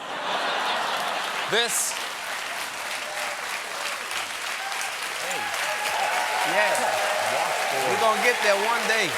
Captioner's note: laughter; applause